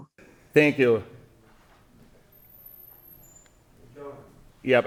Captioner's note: silence